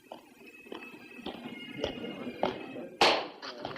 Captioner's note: men chattering